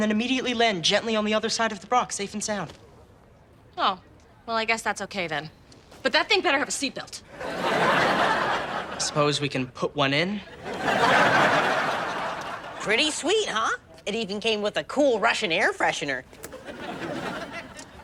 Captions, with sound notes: and then immediately land gently on the other side of the Brock, safe and sound. - Oh, well I guess that's okay then. But thing better have a seatbelt. - I suppose we can put one in. (audience laughs) - Pretty sweet, huh? It even came with a cool Russian air freshener.